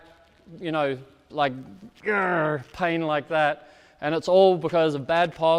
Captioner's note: grunts